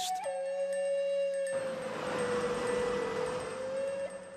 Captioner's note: roar of engine